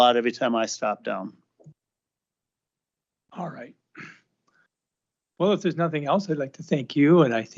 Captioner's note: clears throat